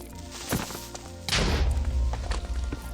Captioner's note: Creeper hisses; boom